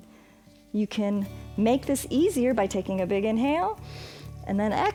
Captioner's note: exhales; inhales